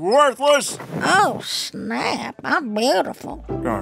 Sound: soundbite of chair spinning around, rustling

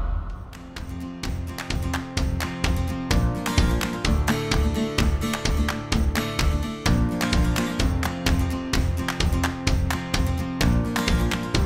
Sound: knocking

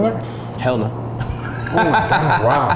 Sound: laughs

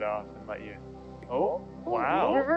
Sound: group oohs

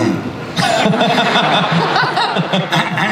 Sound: everyone laughs

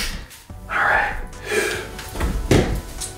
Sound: grunting noises

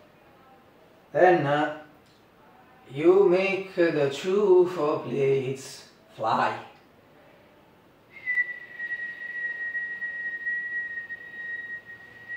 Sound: whistle

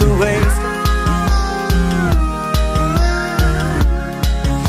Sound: awooo~

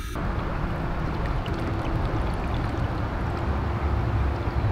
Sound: water gurgles

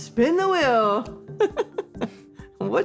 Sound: laughs

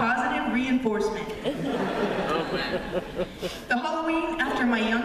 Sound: laughter

